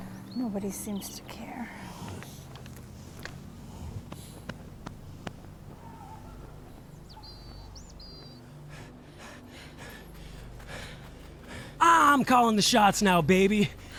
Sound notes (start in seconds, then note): 3.9 distant barking; 8.3 Elvis heavily panting